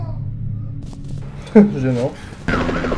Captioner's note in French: rire